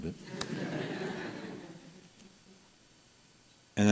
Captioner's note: laughter